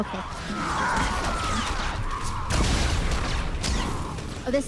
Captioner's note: gunfire